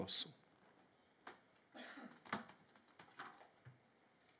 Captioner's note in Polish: Kaszel